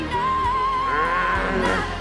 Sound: grunting

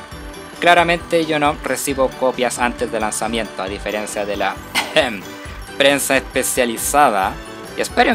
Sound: ahem

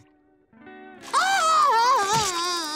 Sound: crying

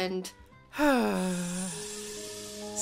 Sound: sigh

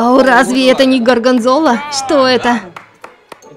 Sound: applause of truth

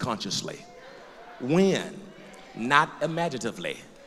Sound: loud crowd agreement; voiceover; loud crowd agreement

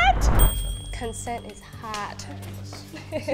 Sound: bell dings

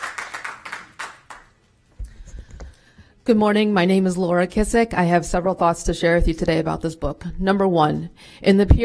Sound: applause

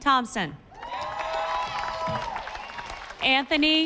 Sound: audience applauding

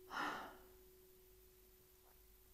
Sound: sigh of relief

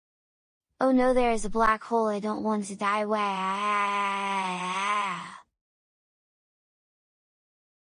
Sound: cry

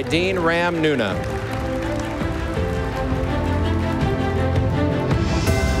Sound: audience applauding; stately music

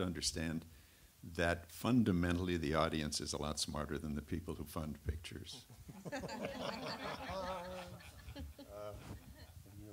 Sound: laughter

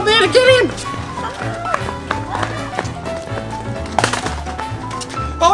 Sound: running foot steps

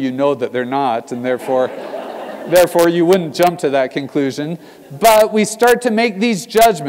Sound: laugh

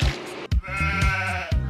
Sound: goat sounds

